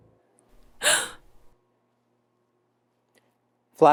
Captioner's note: Flashlight gasping